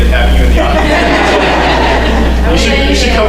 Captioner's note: laughter